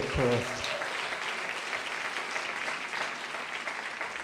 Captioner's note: applause